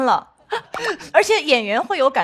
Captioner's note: still laughing thinking about it